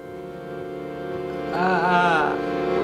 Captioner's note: makes pained sound